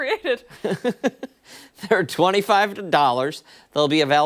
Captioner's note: laughter